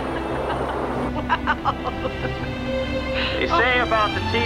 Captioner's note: laughing